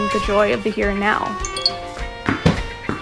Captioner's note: incoming email sfx